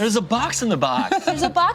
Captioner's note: laughs